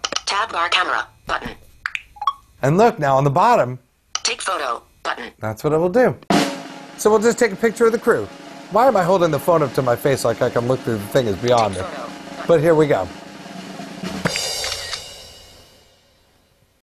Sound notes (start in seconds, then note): 2.2 button click and beeps; 6.4 drum rolls; 14.5 camera shutter clicks